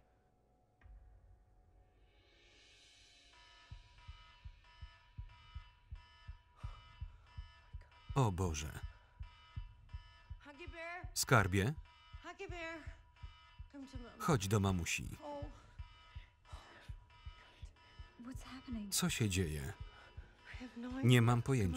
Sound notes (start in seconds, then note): 0.1 tense instrumental music; 4.0 alarm blares